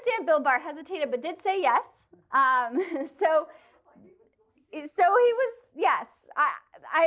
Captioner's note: laughter